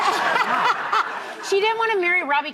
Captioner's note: laughter